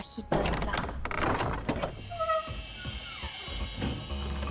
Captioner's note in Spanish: sonido al abrir la puerta